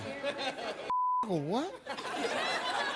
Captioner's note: beep